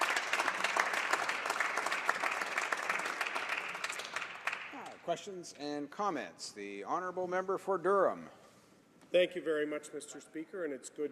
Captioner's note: applause